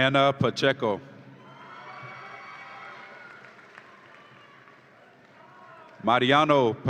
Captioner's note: audience applauds and cheers